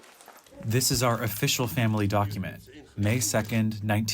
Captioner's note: through translator